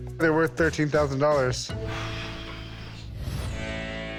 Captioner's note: exhales sharply